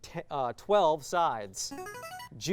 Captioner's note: signaling device tone